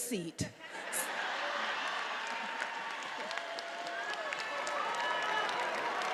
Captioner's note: attendees applauding and cheering